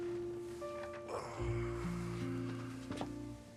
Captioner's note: Rob sighs; gentle music